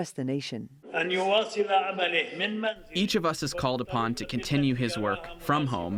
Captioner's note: through translator